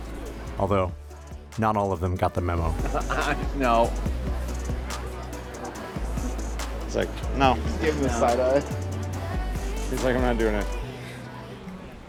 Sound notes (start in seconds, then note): 0.5 voiceover; 2.6 laughs off screen